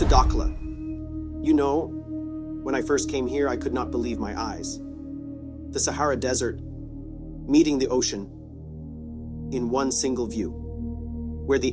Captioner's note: vent soufflant